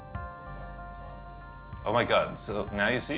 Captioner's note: ringing